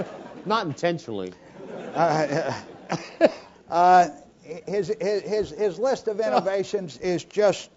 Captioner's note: laugh